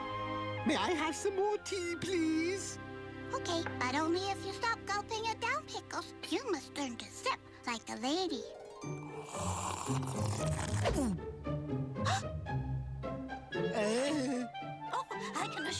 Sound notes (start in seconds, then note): 0.3 british accent; 9.1 sips, gulps; 13.7 gasps